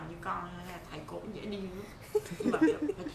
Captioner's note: laugh